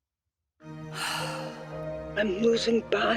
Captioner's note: sighs